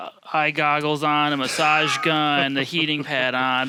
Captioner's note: laughing